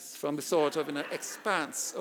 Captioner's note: audience laughing